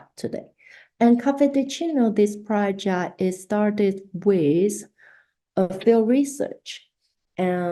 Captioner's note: spanish